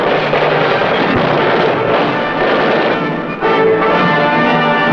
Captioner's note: bomb exploding